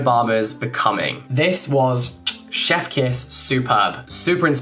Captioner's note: lips smacking